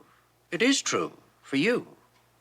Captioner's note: none